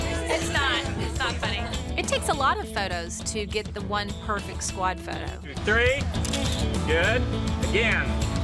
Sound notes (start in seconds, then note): 6.2 camera clicking